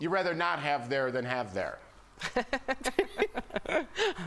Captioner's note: laughter